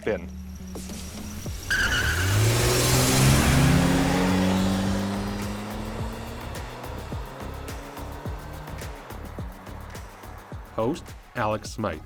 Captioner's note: tires squealing